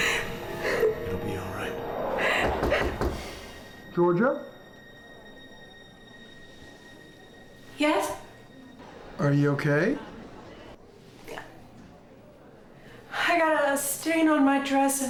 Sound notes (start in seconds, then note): 2.4 knocking on door